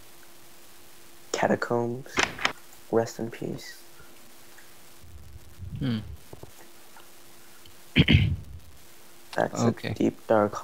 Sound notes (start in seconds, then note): 8.0 clears Throat